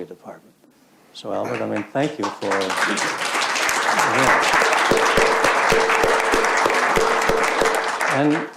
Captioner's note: crowd claps